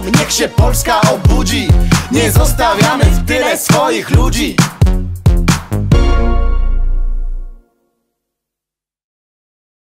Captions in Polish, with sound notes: Niech się Polska obudzi! Nie zostawiamy w tyle swoich ludzi. [cisza]